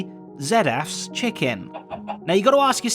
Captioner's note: chicken clucks